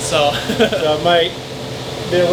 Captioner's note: laughs